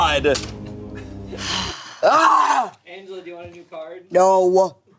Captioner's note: groans